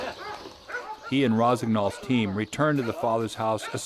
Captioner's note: voiceover